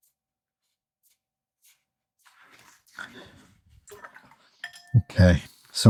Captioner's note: silence